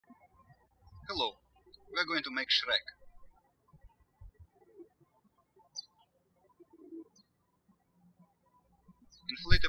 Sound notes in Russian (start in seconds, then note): 0.0 птички щебечут; 3.6 птички щебечут